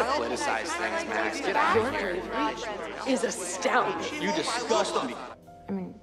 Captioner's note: users clamor